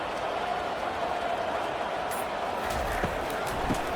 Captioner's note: crowd cheering